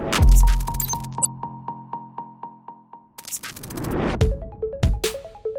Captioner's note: hip hop beat; echoed beep